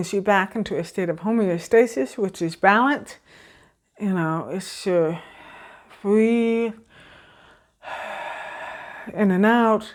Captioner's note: breath sound